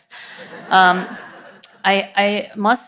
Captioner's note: audience laughs